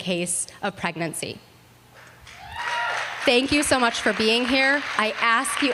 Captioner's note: applause